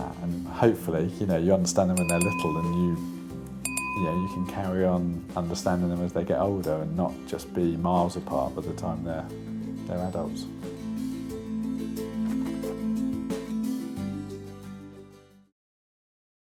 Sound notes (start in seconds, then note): 3.6 bell dings; 11.2 calming music